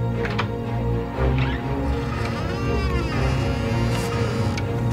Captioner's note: door creaking